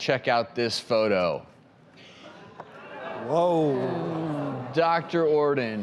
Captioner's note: audience gasps